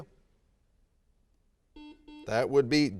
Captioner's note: buzzer sounds